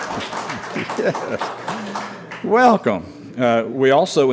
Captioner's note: applause